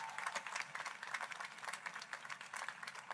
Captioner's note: applause